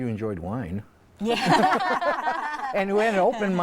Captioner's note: laughing